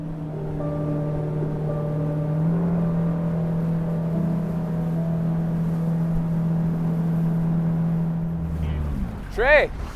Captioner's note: boat motor rumbling